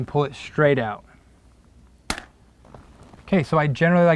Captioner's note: chalk line snaps against the wall, no additional audio